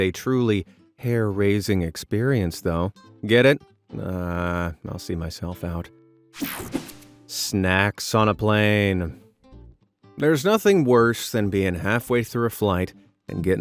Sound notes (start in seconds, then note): 6.4 scene change snaps